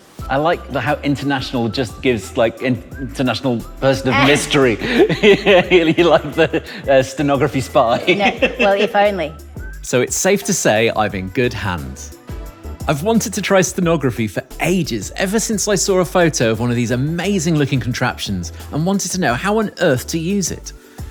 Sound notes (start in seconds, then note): 4.1 laughs